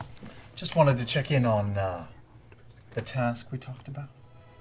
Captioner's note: lowers voice